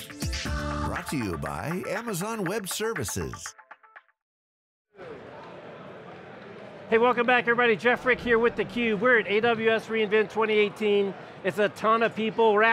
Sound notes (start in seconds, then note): 0.0 upbeat music; 5.8 crowd talking